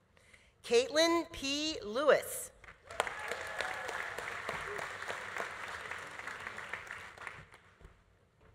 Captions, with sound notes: Kaitlyn P. Lewis. (audience applauding) (audience cheering)